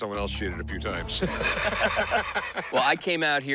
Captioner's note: laughter